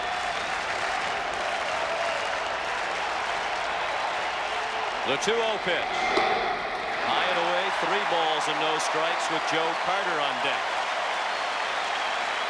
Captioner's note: applause